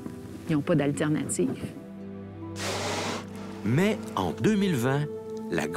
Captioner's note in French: souffle de la baleine